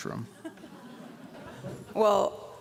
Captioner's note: laughter